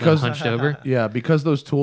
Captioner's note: laughter